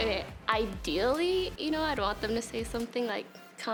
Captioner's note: none